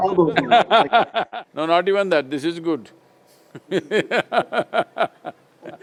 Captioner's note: laughs